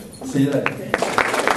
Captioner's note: applause